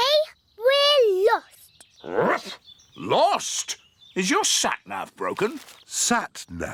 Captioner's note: barks